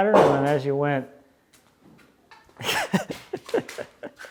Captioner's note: laughs